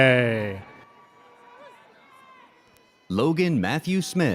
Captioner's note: audience cheers